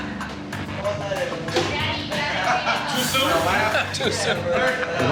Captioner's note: people chattering